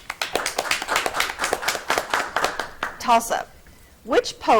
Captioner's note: audience clapping